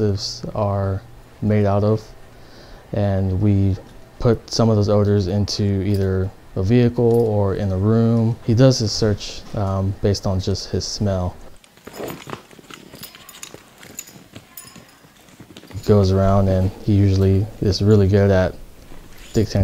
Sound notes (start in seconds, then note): 11.6 dog tags clanking; 13.0 dog sniffing